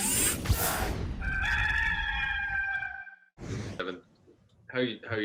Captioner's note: rooster crowing